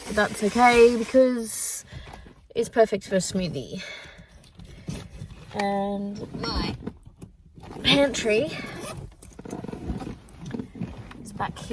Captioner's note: rustle; zipper